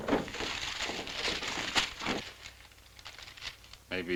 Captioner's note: papers rustling